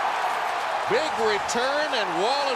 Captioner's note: cheering